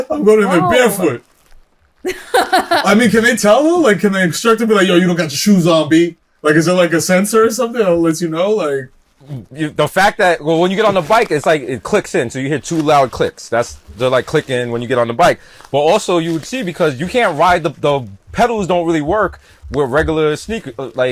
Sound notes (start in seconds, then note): 2.0 chuckles